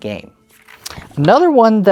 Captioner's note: paper rustling